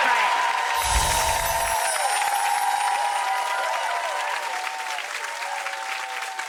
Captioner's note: audience applauding; audience cheering